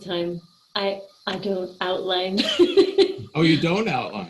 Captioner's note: laughing